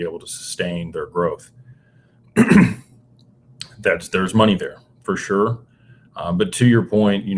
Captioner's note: clears throat